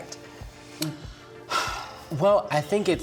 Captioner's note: sighs